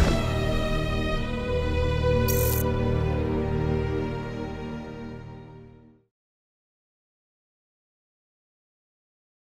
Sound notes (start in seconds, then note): 2.1 static crackling